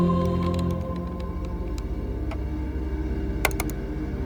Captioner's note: computer clicking